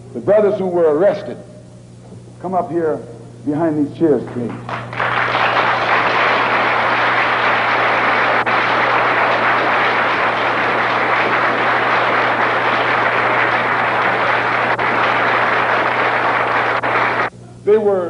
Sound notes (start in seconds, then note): 4.2 applause